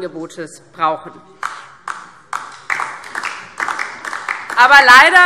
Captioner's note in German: Beifall DIE LINKE